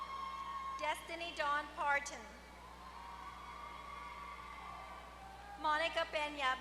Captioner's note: applause; applause